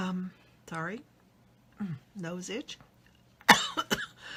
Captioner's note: coughs